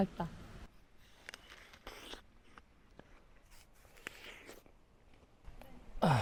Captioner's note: apple asmr